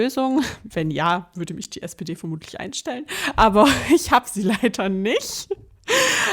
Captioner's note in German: gelächter